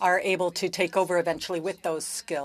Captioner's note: speaking french